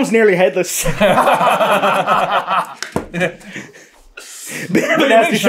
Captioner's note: laughter